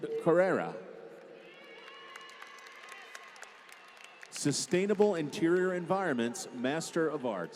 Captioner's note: applause